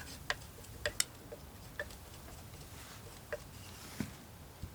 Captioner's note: tapping